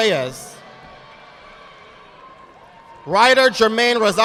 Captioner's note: audience clapping